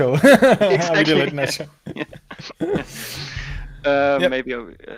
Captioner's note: both laughing